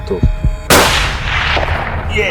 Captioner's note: shot